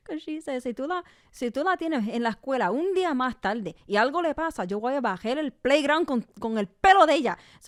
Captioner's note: speaks in Spanish